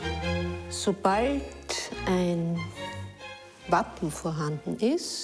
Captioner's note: speaking foreign language